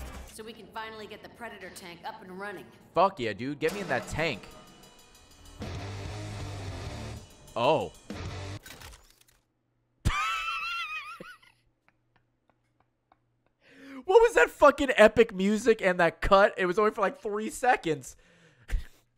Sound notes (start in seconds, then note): 5.3 epic music; 7.9 silence; 10.0 laughs